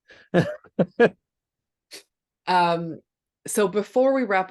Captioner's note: presenter laughing